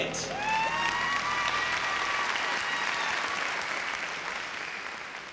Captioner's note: cheering and applause